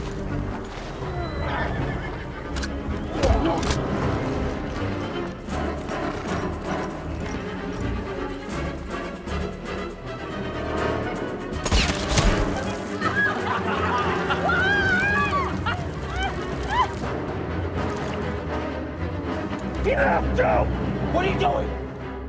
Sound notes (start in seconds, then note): 0.0 men struggling; 0.8 horses whinnying; 3.5 gun cocking; 5.1 foreboding music; 11.6 guns shooting; 12.5 wine leaking; 12.7 men laughing; 14.7 woman yelling